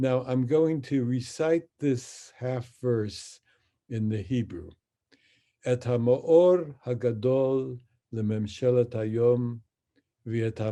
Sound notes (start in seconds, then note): 6.1 speaks in Hebrew